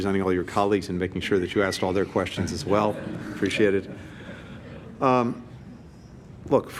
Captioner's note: laughter